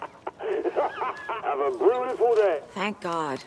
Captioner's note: laughs